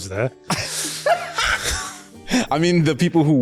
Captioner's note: laughter